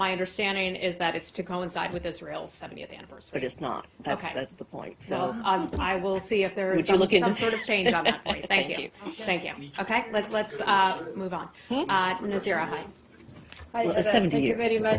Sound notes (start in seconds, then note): 7.2 laughter